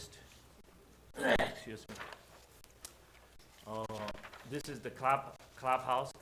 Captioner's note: clears throat